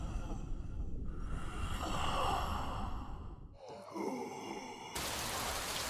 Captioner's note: ghostly breathing